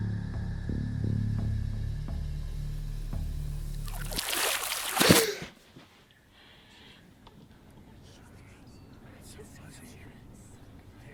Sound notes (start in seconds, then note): 3.7 splash; 5.0 girl gasp; 8.0 voices whispering